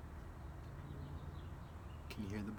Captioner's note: birds chirping